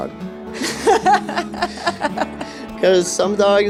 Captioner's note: laughing